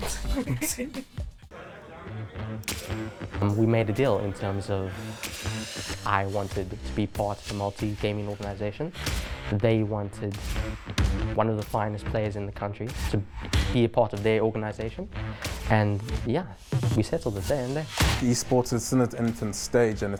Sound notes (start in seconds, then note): 0.0 laughing